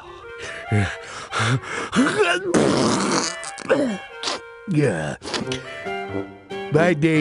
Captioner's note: sneezes sickly